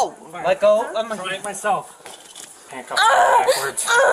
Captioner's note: crying in pain